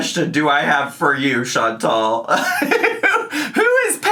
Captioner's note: laughs